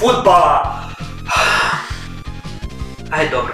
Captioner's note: sigh